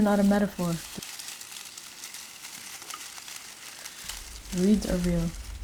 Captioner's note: noise of rustling, crunching reeds